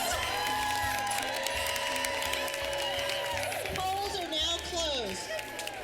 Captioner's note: cheering, clapping